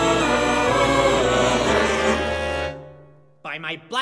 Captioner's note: Musilasians cut-off singing as they all choke